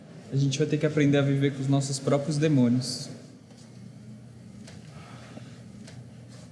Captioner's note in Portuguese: none